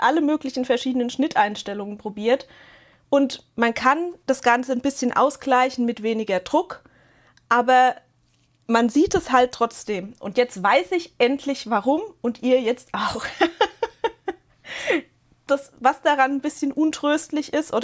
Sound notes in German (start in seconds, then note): 13.1 gelächter